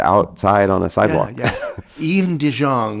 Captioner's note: chuckles